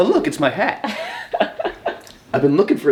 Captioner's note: laughing